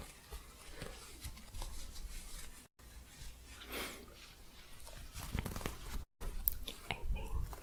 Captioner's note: shuffling and soft scratching